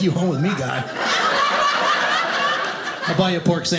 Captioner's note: audience laughing